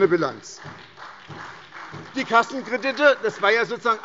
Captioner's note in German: Beifall bei Abgeordneten der SPD